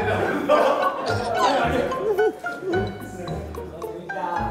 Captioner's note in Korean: 꺄르르